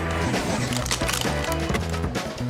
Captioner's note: sci-fi music; guns clicking; sci-fi music